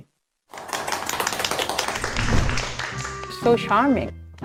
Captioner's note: applause